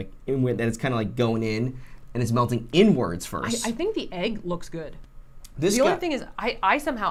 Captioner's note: none